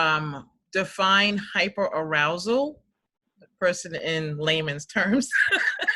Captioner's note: laughs